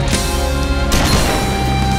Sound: boom

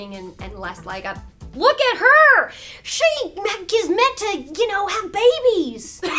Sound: stutters

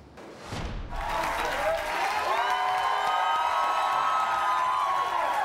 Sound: audience claps and cheers

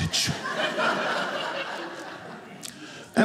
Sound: audience laughing

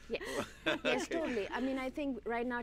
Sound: laughing

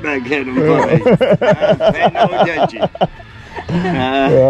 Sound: laughter

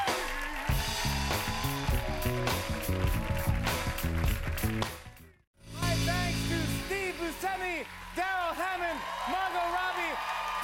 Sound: cheers and applause

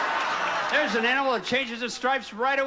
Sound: audience laughing

